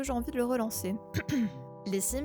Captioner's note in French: se racle la gorge